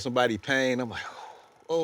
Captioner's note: loud exhaling